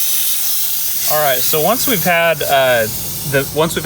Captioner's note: steam hisses